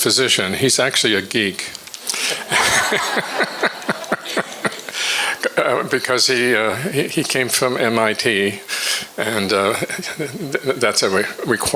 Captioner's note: all laugh